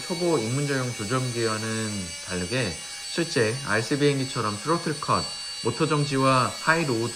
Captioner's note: motor stop